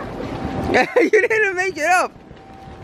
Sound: laughs

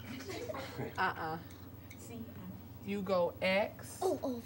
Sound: kids giggle

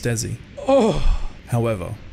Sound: pained groan

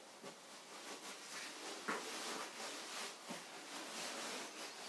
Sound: fabric rustles softly

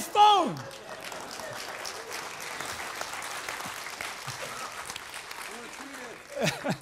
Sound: applause

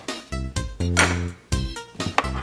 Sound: playful electronic music; plate clanks; playful electronic music

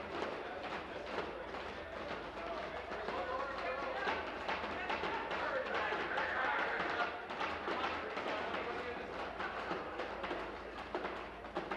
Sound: tapping on desks

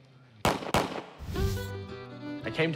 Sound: gunfire

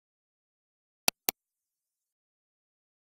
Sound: sound of computer mouse click

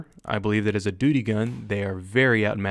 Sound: gunfire

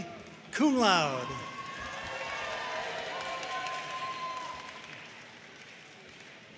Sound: audience cheering and applauding

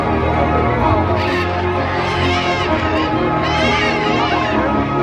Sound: macaws squawking

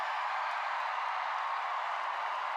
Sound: song ends, cheers and applause

